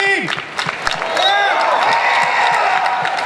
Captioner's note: audience cheers